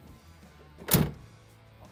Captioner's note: door closes